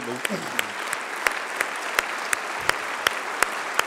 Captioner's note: applause